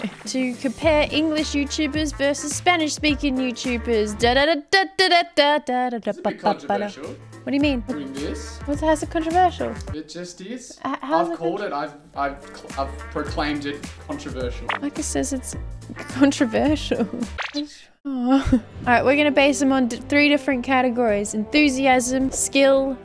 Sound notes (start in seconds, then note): 18.2 laughs